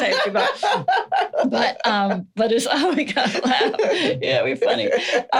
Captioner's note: laughing